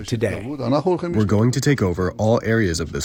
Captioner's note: through translator